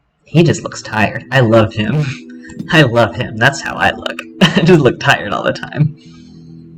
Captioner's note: laughter